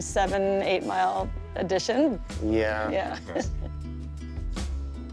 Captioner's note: chuckling